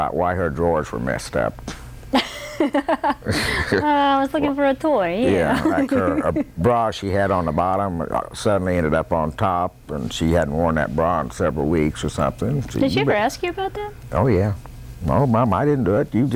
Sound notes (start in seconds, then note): 2.1 laughter